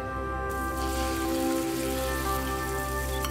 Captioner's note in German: Zischen